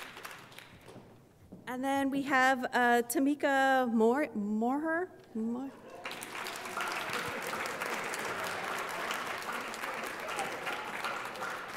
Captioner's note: applause